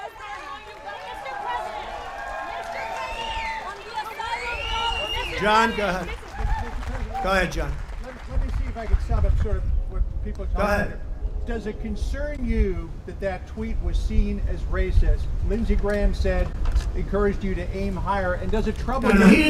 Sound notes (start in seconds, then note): 0.3 audience applause and talking; 4.0 audience cheering